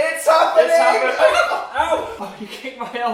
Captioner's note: laughing; Dan falls on Phil, lots of screaming